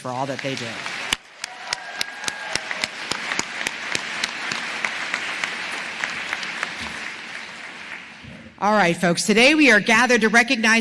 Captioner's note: applause